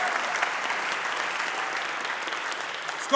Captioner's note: audience applauding